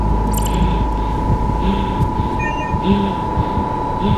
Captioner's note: breathing heavily